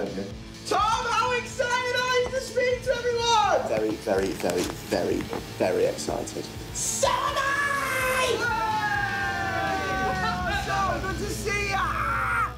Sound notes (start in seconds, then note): 8.0 all shouting